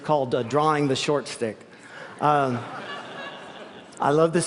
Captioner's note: laughter